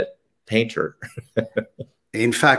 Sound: chuckles

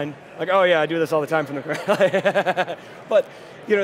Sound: laughing

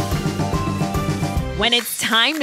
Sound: clapping

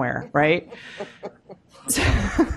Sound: laughter; laughs

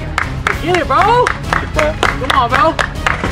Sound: claps

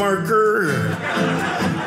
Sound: audience laughing

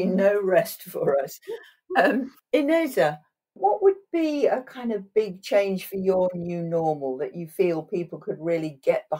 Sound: laughing

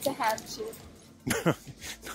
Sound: laughs

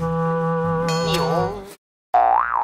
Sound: boing~

